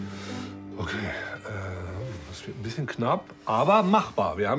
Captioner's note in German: seufzend